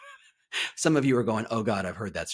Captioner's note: laughs